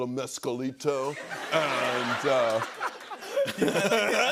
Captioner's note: laughter